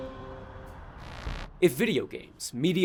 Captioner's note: static